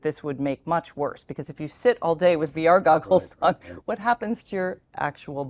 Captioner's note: laugh